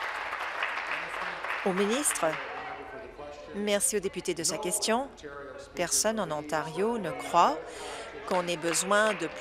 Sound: applause

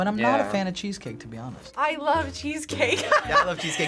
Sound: laughs

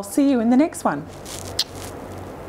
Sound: kisses

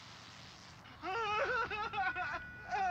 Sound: cries

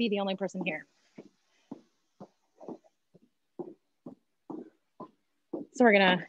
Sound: footsteps thudding

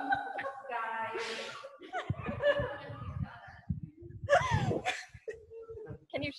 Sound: laughing; group laughing

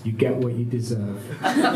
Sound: laughter

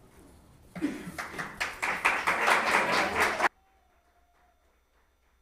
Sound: audience applauds

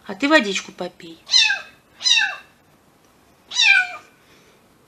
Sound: kitten meows

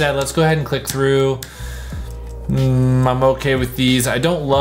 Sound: keyboard clicking

